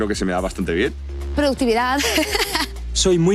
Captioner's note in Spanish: Risas